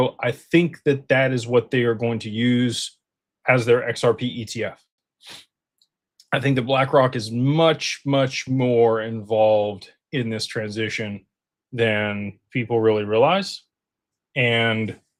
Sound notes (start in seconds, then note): 5.5 snorts